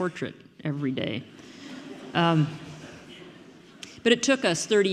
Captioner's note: audience murmuring